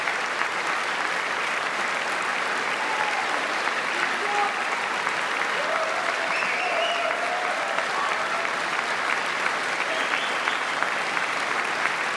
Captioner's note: applause